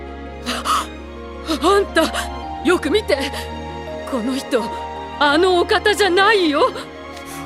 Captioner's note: gasp